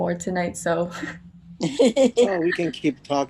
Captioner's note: both laugh